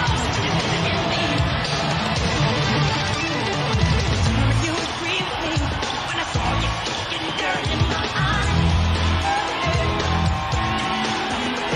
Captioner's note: applause